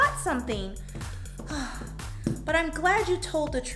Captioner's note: sighs